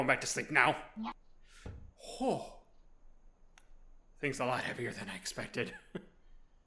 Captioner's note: Kerfur me- THUNK